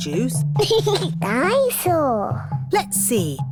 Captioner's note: giggles